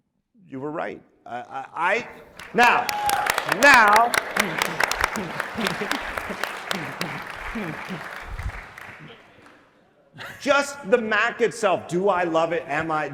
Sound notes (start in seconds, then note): 2.2 audience applauding